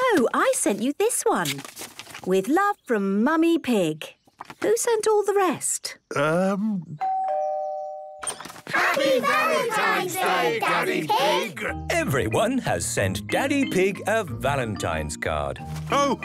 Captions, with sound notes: - No. I sent you this one! “With love, from Mummy Pig.” Who sent all the rest? - Umm... - (doorbell rings) - (crowd) Happy Valentine's Day, Daddy Pig! - Everyone has sent Daddy Pig a Valentine's card.